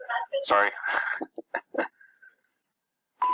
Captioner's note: laughter